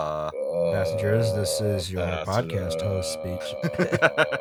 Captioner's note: pilot voice